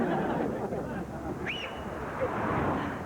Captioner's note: Jack whistles